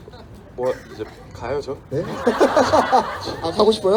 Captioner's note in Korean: 웃음